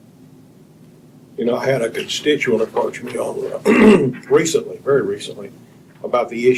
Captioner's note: clears throat